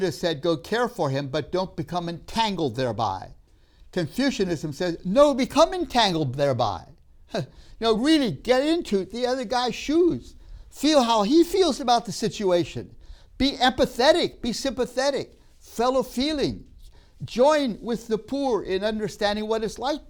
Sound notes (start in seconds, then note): none